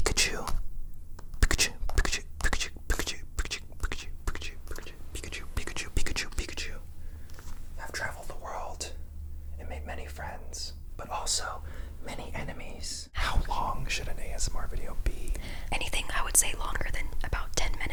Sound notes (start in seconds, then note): 1.2 percussive mouth noises; 1.3 soft tapping